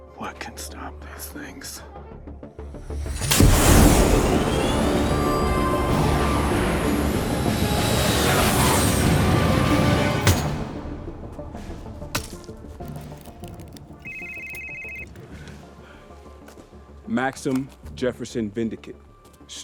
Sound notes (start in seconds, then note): 3.4 dramatic music; 3.4 fighter jet whooshes; 10.4 hammer thunks; 14.0 phone rings